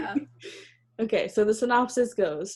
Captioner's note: laughs